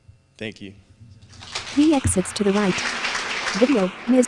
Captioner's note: applause